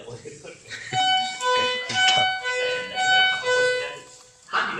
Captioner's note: signal Sound